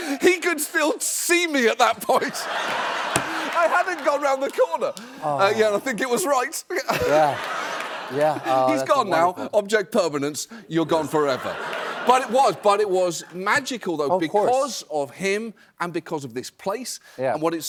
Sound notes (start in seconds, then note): 2.0 laughter; 6.7 laughter